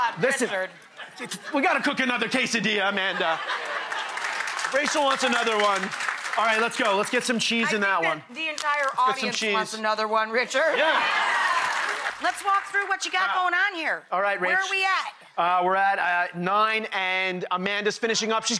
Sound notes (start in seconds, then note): 3.7 audience laughs; 10.7 audience laughs